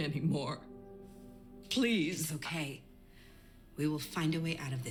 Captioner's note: voice breaking